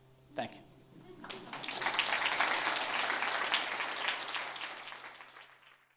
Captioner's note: audience applauds